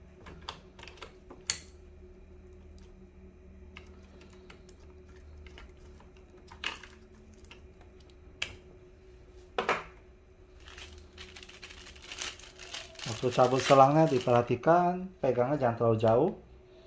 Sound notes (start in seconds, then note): 10.6 plastic sound